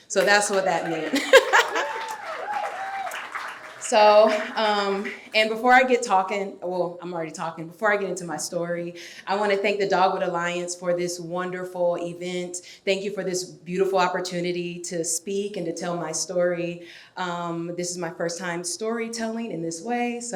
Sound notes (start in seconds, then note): 0.7 laughs; 2.2 audience cheering